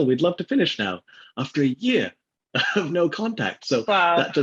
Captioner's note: laughs